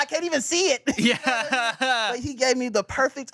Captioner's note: laughs